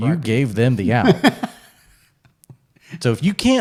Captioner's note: laughs